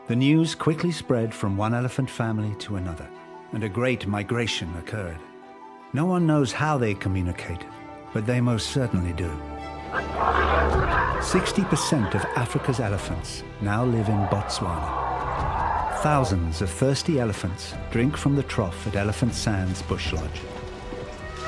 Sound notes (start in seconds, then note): 9.9 grunting